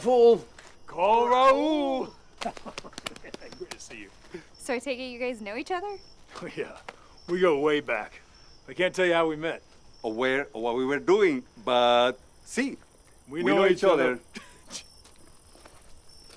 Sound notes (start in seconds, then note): 2.3 quiet laughter